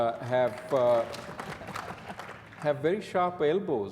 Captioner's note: audience applause